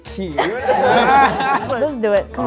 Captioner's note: group laughing